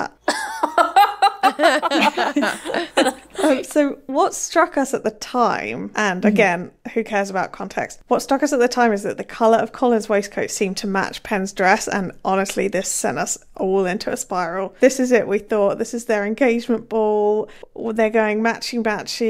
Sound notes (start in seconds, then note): 0.3 laughing